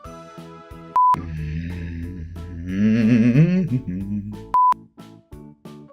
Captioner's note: annoyned humming